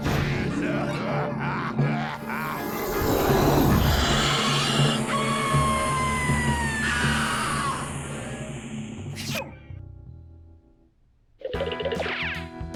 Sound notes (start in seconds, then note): 0.5 evil laugh; 3.1 growling